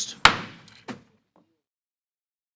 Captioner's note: gavel bangs